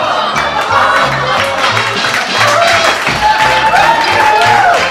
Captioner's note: applause and cheer